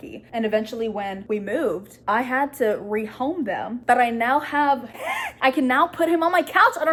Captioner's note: gasp of excitement